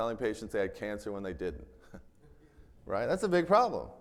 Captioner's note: chuckles